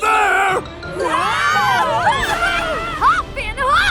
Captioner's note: yelling